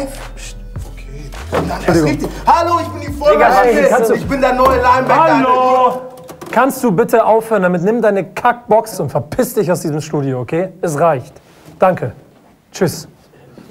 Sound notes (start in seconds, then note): 3.2 shouts